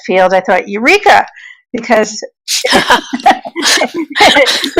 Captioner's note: laughing